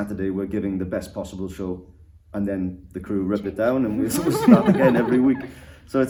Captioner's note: laughter